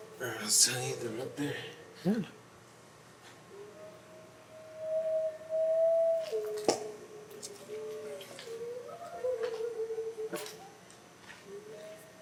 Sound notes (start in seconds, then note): 0.1 two sets of howls; 3.5 loud howl